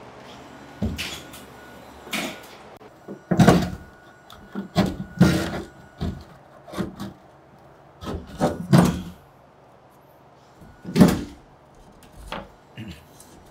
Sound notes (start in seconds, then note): 1.0 nail gun sounds